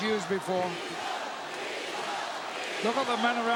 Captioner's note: crowd chants "Weasel"